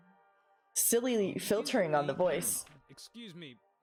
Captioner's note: voice cracking